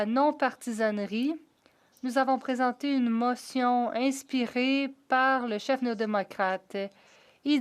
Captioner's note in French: voix de l'interprète